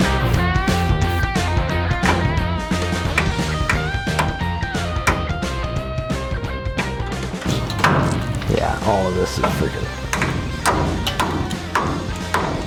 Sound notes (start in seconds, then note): 1.9 hammering metal